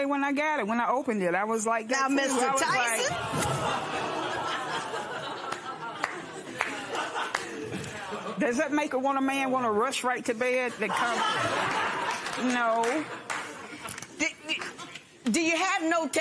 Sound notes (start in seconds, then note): 3.0 laughter